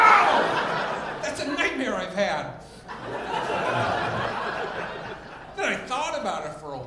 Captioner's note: audience laughing